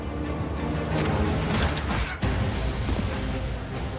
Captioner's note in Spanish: Disparo